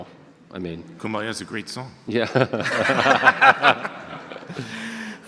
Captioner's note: audience laughter